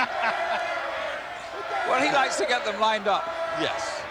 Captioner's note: crowd chants "Irwin"